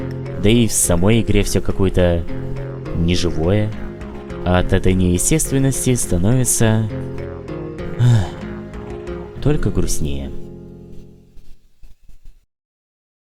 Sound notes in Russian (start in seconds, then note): 7.9 вздох